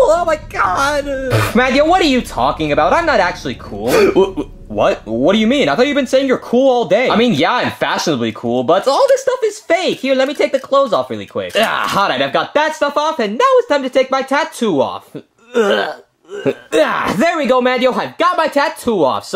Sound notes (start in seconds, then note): 4.2 gasps; 15.4 grunting